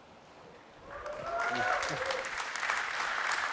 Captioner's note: applause